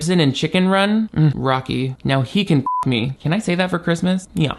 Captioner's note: beep